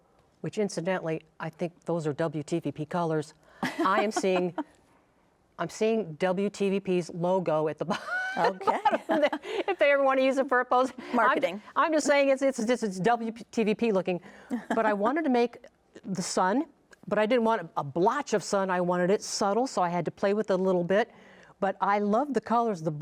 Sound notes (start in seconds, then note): 3.6 laughing; 8.0 laughs